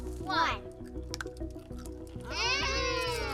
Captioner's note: loud crunching; laughs